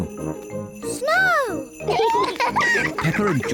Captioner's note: both giggle